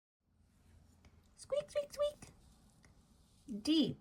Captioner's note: mouse squeaks